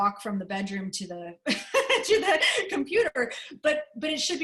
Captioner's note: laughter